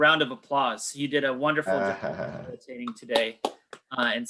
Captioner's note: faintly speaking; all clapping